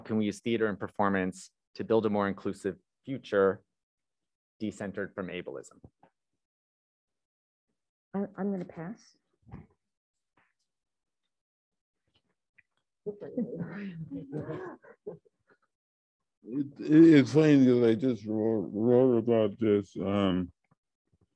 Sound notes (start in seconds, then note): 13.1 laughter